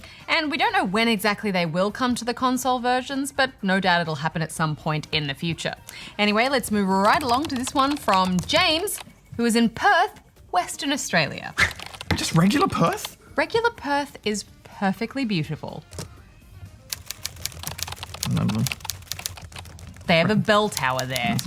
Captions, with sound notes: And we don't know when exactly they will come to the console versions, but no doubt it will happen at some point in the future. Anyway, let's move right along to this one from James, who is in Perth, Western Australia. Just regular Perth? Regular Perth is perfectly beautiful. (GRUMBLES) They have a bell tower there.